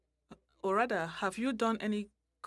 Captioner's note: speaking french